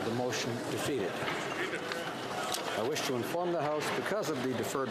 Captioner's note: speaking French